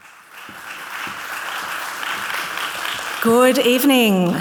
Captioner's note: audience clapping